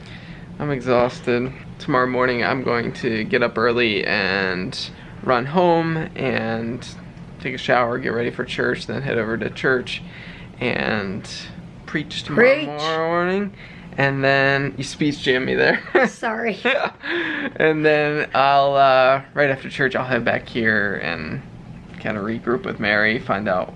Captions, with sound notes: I'm exhausted. Tomorrow morning I'm going to get up early and run home and take a shower, get ready for church, then head over to church and Preach tomorrow morning. Preach! And then, you speech jammed me there. Sorry. [laughter] And then I'll, right after church I'll head back here and kind of regroup with Mary, find out